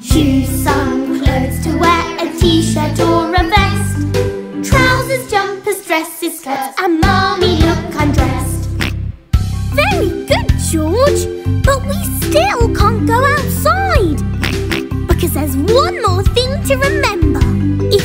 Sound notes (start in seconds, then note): 0.1 singing; 14.4 oink